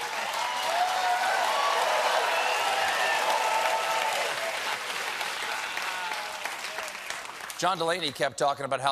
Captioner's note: laughter